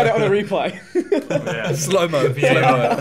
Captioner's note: laughing